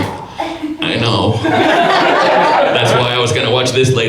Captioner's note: audience laughs